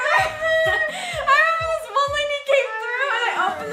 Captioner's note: laughs